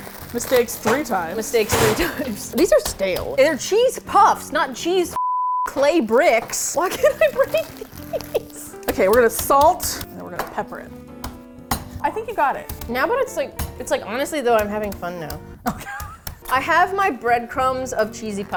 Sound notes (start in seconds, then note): 2.0 laughs; 6.9 laughing anxiously; 15.6 laughs